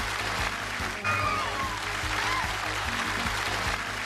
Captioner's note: screams